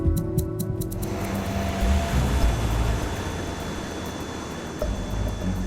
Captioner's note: sinister music; airplane engine roaring; upbeat music